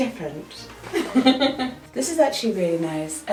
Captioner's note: laughing